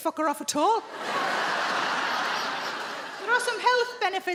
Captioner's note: audience laughing